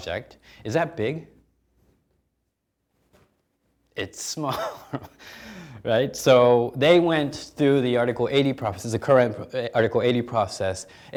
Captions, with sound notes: Is that big? It's small, (chuckling) right? So they went through the Article 80 process, the current Article 80 process.